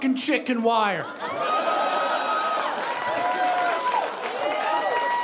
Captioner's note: audience laughing